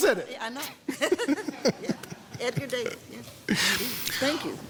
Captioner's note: both laughing